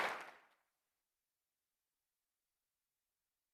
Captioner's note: applause